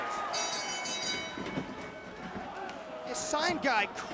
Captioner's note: bell ringing